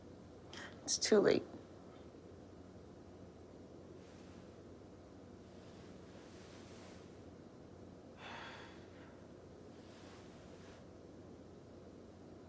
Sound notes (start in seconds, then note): 8.2 sighing